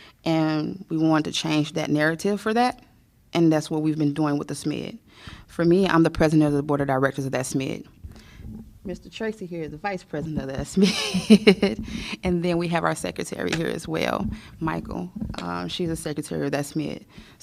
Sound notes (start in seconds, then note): 10.8 laughter